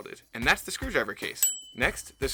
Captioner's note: bell dinging